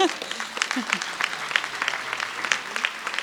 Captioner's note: laughter; applause